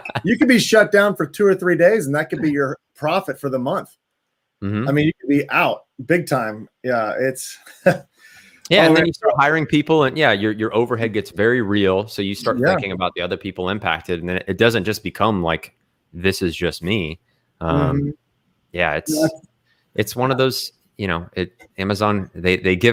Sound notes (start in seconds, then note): 0.0 laughs; 7.6 chuckles